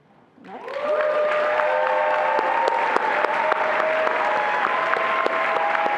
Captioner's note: attendees applauding and cheering